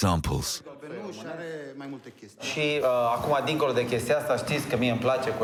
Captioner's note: speaking foreign language